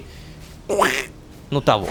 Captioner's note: choking noise